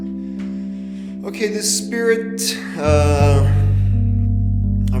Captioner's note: sighing